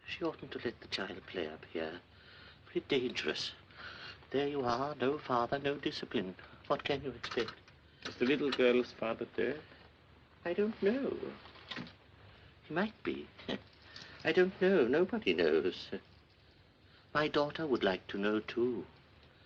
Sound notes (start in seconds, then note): none